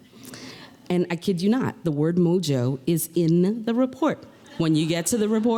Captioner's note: laughter